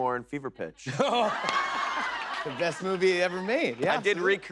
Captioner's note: chuckles